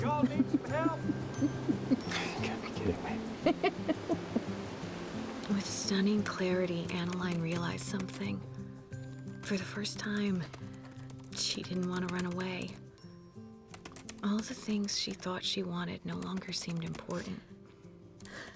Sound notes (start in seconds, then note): 0.0 drucinda giggling; 6.1 typing